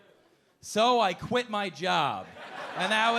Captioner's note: audience laughing